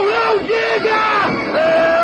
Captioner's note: yelling